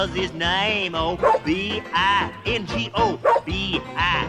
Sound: barks

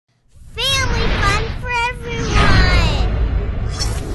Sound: voiceover

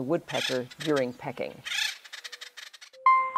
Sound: woodpecker squawking

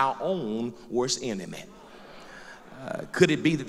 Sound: loud crowd agreement

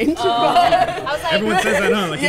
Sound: group laughs

